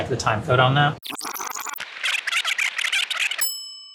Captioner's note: tape squeaking; bell dinging